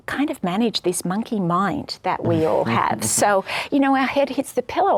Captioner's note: laughs